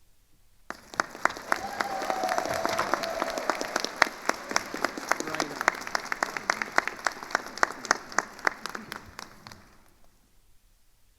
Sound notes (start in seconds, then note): 0.7 attendees cheering and applauding